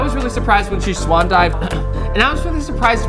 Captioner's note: clears throat